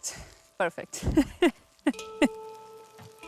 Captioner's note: chuckles